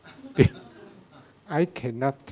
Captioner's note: audience laughing